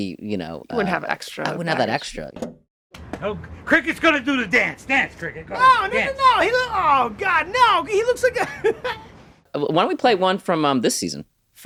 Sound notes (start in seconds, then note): 8.2 laughs